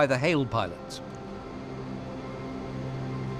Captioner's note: generators